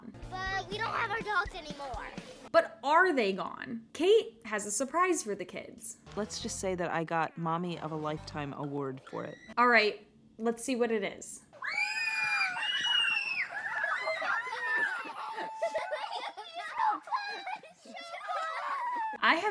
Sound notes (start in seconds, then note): 11.6 screaming